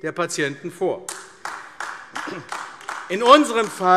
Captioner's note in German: Beifall AfD